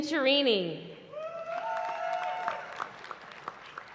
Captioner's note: cheering